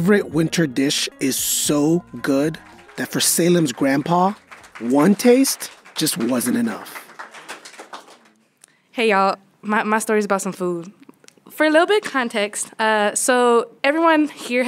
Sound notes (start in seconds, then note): 6.6 scattered clapping